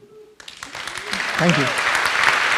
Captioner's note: audience applauds